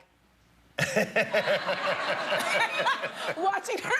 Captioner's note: laughter